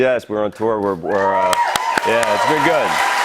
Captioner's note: cheers and applause